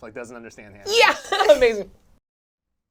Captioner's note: laughing